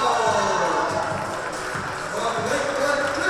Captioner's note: audience applauding and cheering